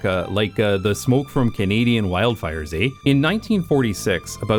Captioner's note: in Canadian accent